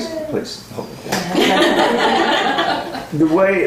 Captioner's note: laughter